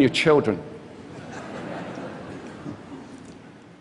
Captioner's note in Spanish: Risas